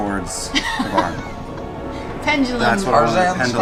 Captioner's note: laughs